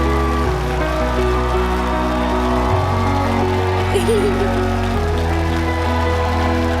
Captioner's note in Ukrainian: оплески